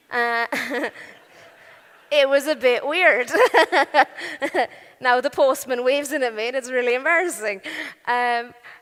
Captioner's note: laughing